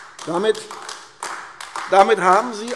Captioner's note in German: Beifall AfD